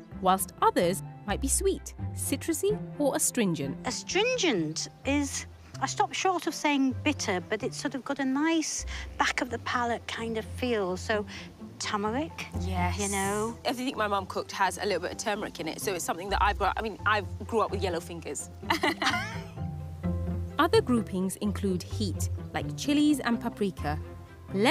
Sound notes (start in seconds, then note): 18.6 they laugh